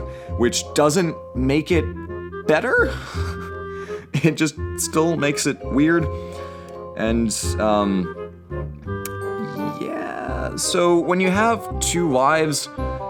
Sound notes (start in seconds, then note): 3.1 sigh; 8.8 tsk